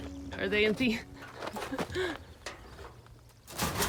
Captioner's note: chuckles nervously